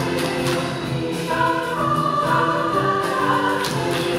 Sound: claps

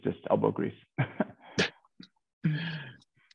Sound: chuckles

